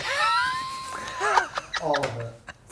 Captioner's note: laughing